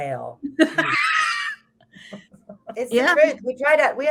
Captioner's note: both laughs